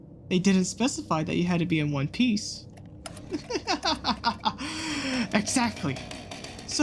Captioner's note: sfx: chainsaw starting up